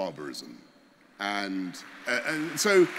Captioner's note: applause